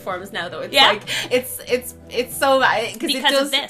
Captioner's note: stuttering